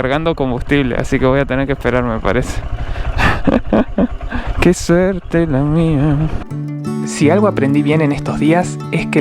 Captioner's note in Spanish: risas